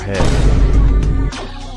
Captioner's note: another vineboom